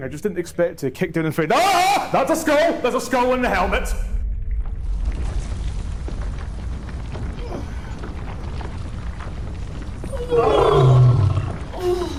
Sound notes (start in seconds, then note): 5.1 loud rumbling; 10.1 tired Sphinx noises; 11.7 growling